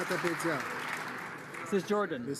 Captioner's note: some Applause